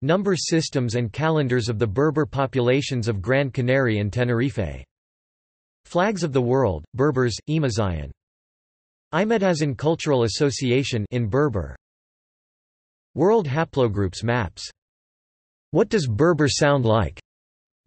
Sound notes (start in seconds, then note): 12.0 in Berber